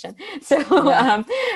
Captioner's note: laughs